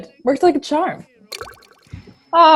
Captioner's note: chatroom chime